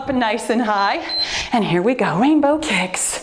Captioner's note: timer beeps